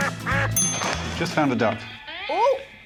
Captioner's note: duck quacks